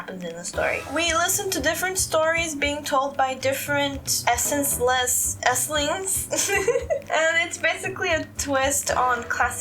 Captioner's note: laugh